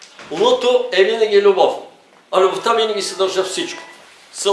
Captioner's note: in Bulgarian